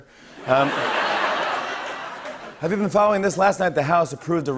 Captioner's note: laughter